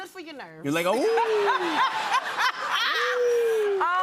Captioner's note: laughter